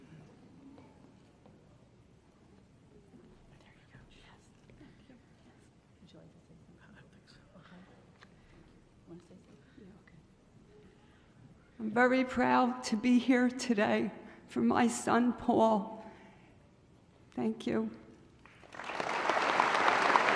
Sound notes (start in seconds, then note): 0.1 crowd Noise; 3.6 whispering; 18.4 applause